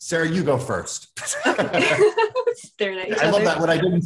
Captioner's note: laughing